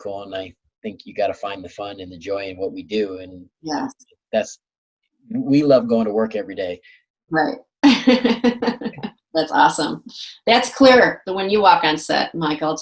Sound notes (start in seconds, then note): 8.2 laughs